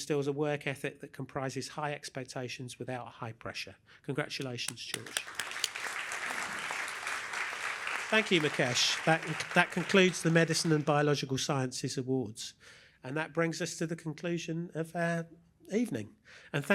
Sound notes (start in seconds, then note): 4.6 applause